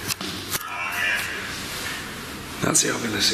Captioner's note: Ovilus chattering